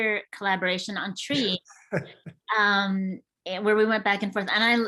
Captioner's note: chuckles